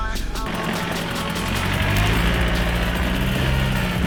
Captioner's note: engine roaring